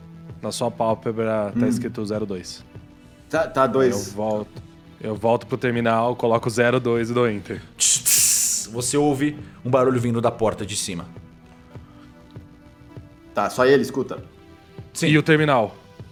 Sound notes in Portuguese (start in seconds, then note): 8.0 tchtsss